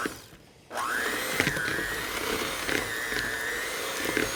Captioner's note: mixer motor revving